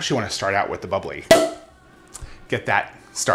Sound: cork pops

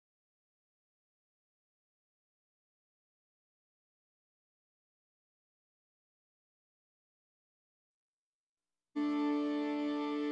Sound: silence

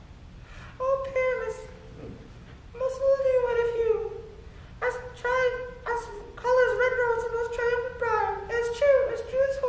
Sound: in a higher voice

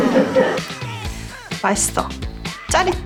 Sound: nom nom

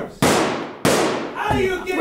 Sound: first gun shot; second gun shot

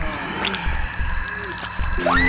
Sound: zombie laughter; flesh squelching; punk guitar music; woman screams

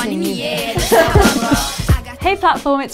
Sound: laughing

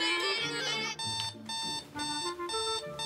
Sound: alarm beeping

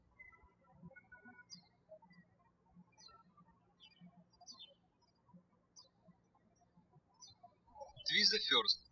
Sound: birds chirping

